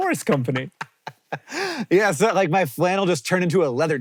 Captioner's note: laughs